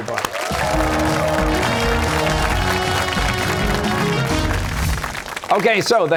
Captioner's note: cheers and applause